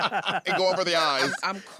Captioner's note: laughter